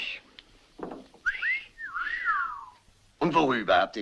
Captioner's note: all whistle